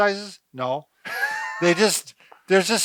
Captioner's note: laughs